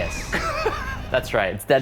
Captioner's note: laughing